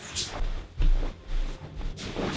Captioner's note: rustle of fabric